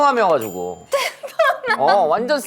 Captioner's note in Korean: 큰 웃음